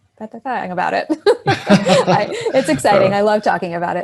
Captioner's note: laughing